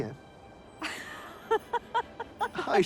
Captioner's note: laughing